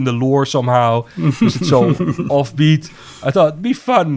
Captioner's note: laughs